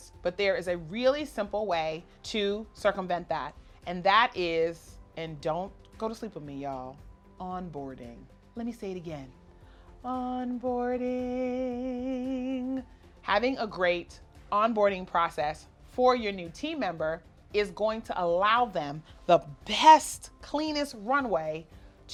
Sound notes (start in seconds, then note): 10.1 sing-song voice